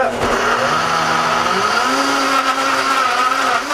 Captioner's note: whirring